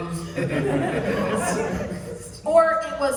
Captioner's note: laughter